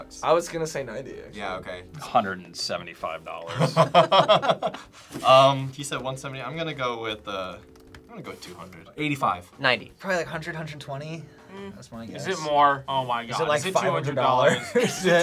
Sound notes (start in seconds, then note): 3.4 both laugh